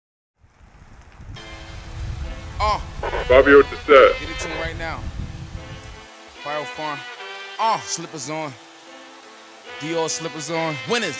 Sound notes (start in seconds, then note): 0.0 horns playing; 3.0 walkie talkie static